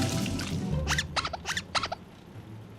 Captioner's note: squeaking